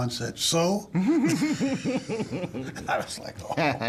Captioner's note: both laughing